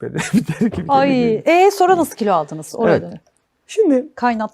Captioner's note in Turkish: kahkaha